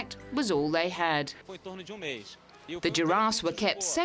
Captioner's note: speaking in foreign language